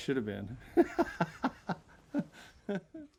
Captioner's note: laughing